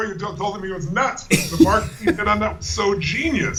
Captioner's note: laughter